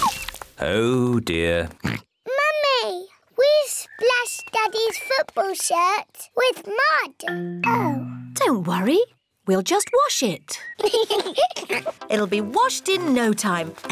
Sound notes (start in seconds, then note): 1.8 oinks; 10.7 both giggle